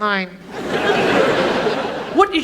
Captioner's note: audience laughs